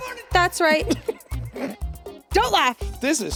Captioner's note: Jacksepticeye laughing